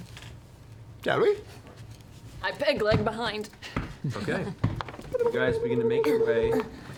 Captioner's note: stomping